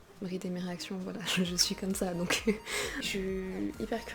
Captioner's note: laugh